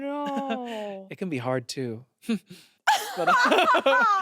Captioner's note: chuckles; everyone laughs